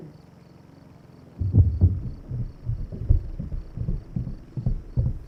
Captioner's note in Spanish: el motor de la cortadora de césped zumba; el tambor se detiene, pasos